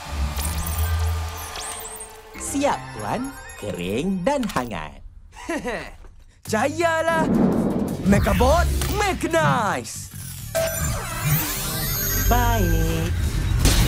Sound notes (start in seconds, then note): 0.1 Mechanizer beeps; 5.3 chuckles; 10.2 beeping, whirring